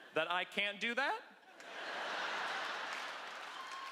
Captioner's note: laughter